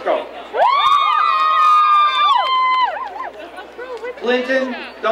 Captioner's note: crowd cheering